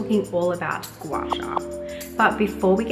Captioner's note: screen pops